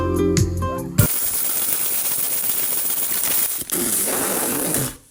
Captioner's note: gentle music; pegs rustling; blows raspberry